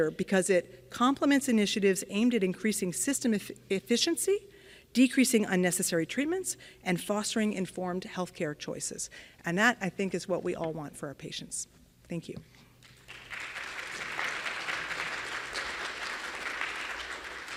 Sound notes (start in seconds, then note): 12.8 audience clapping